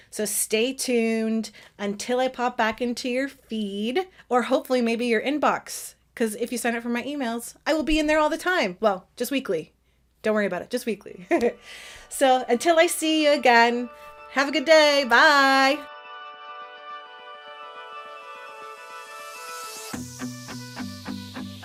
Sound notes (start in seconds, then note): 11.2 laughs; 16.1 inspirational music